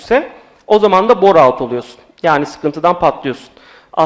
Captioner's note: none